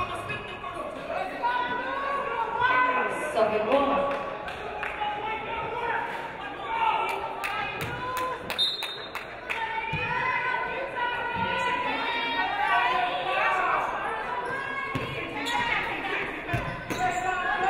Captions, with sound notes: Suffolk ball. (referee blows whistle)